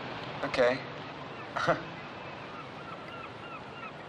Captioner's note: chuckling